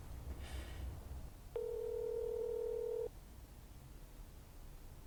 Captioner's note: phone ringing